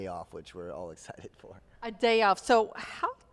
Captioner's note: laughs